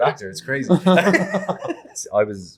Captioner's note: laughing